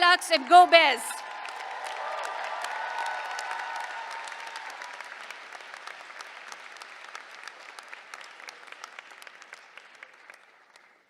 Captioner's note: applause